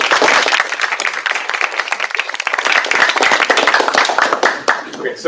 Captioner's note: applause